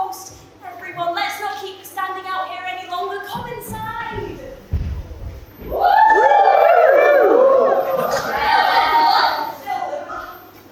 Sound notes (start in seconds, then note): 5.7 audience cheers